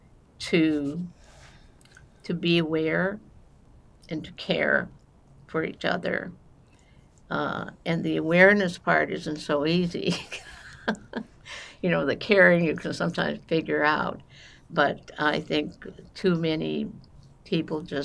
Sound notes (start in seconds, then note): 10.1 laughing